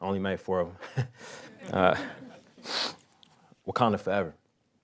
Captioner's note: laughing